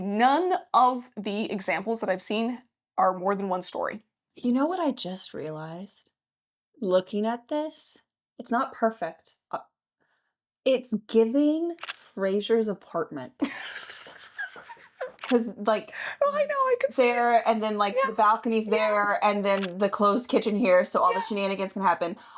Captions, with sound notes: none of the examples that I've seen are more than one story. You know what I just realized? Looking at this, it's not perfect. It's giving Fraser's apartment. (laughing) Cause like, Well I know I can see. There and then like the balcony's there and then the closed kitchen here. So all the shenanigans can happen.